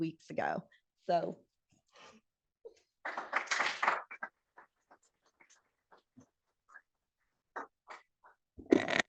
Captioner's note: applause